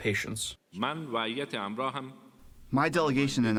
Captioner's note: through translator